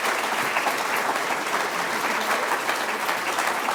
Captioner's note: applause